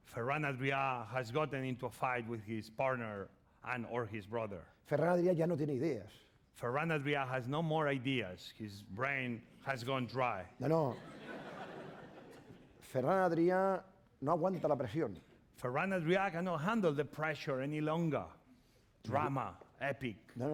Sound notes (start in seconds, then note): 5.6 speaking spanish; 10.8 laughter; 13.6 speaking spanish